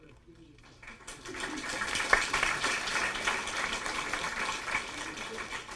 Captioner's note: clapping